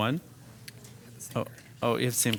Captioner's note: whispering